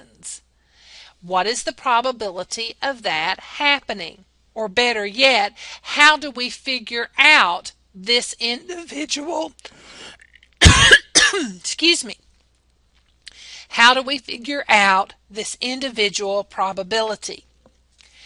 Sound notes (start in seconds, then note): 10.6 cough excuse me